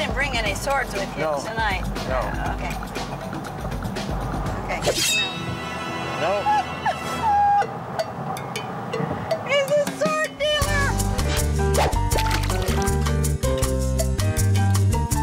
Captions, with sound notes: - But you didn't bring any swords with you tonight? - No, no. - Okay, okay. (whoosh) (laugh) He's a sword dealer! (upbeat music)